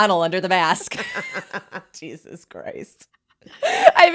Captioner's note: both laughing